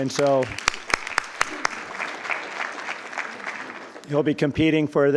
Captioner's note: attendees applauding